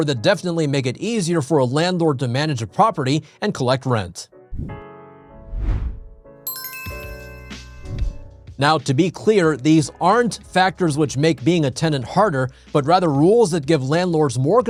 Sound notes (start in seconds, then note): 5.0 gentle upbeat music; 5.4 screen whooshes; 6.5 screen pings